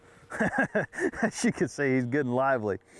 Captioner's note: laughing